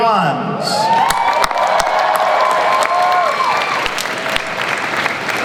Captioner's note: audience applauds and cheers